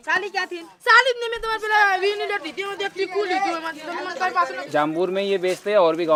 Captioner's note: speaking local language